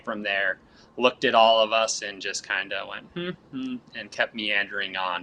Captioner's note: humming